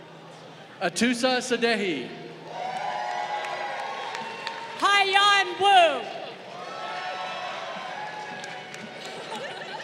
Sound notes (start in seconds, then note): 2.4 crowd cheering; 8.9 crowd laughing